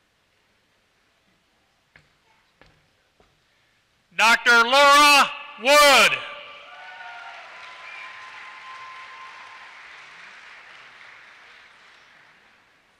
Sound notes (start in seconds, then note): 6.6 applause